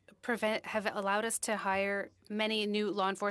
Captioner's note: speaking French